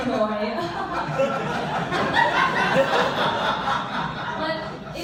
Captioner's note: laughter